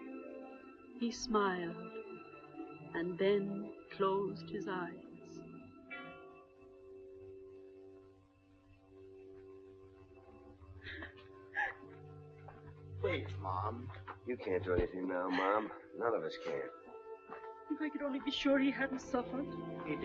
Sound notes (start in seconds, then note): 11.5 Tess sobbing